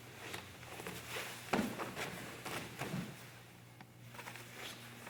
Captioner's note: soft shuffling